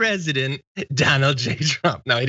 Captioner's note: laugh